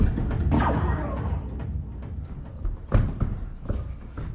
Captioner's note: blaster fires